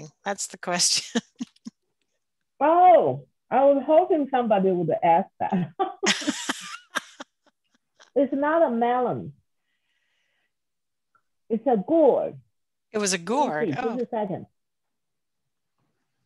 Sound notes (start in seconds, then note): 1.1 laughs; 5.8 laughing